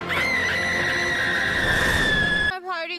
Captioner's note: scream